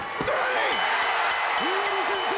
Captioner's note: bell ringing